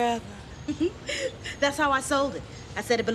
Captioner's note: giggling